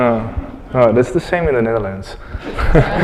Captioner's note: laugther